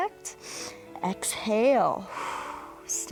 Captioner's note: exhales